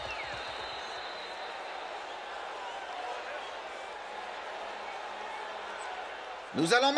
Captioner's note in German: beifall